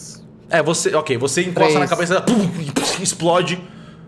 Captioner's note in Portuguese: impacto